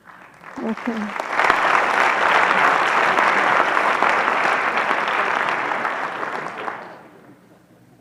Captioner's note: applause